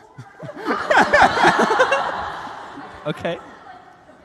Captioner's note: laughter